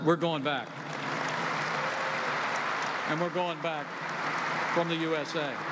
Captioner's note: applause